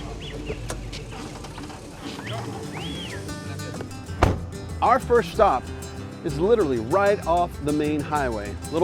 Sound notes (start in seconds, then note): 0.5 dog barking; 0.5 gentle guitar music